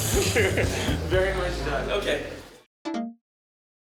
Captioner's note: laughs